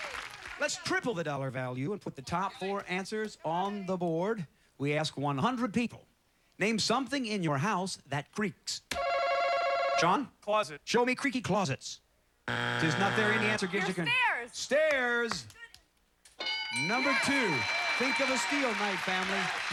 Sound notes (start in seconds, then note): 8.5 chime; 12.4 buzzer